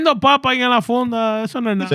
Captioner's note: speaking Foreign Language